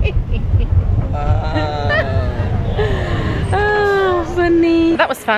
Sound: laughing

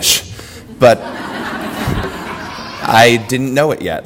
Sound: audience laughter

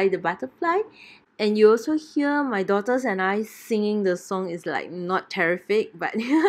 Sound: giggles

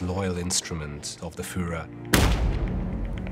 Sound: gunshot

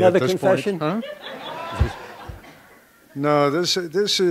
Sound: background Laughter

